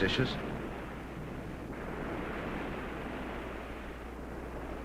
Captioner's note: waves crashing